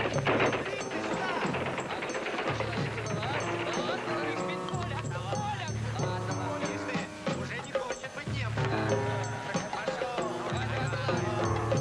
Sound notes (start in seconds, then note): 1.0 soldiers yelling in foreign language